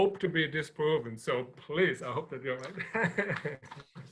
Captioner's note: chuckles